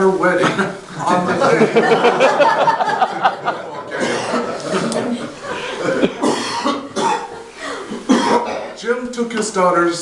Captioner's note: audience laughter